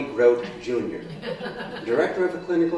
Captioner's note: laughter